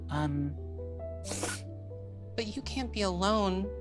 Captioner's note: imitates sniffling